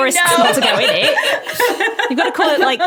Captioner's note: group laughing